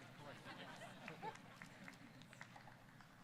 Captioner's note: scattered chuckling